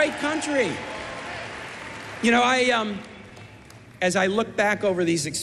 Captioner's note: cheers and applause